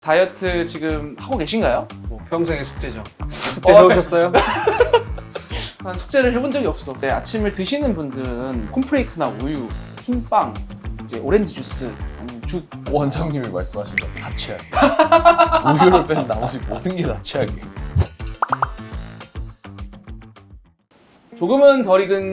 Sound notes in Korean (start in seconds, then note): 4.3 웃음; 14.7 웃음